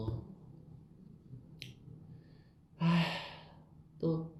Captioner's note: sigh